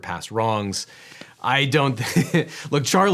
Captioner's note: laughs